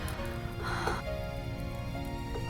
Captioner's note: soft music; breathing; soft music